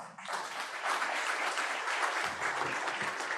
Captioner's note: applause